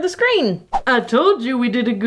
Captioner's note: loud swipe